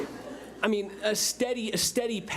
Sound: public laughing

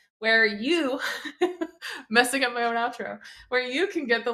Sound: laughs

